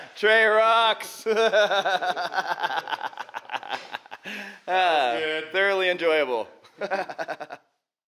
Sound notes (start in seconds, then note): 1.1 laughs; 4.2 sighs; 6.6 laughs